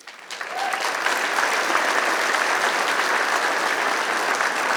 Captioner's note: applause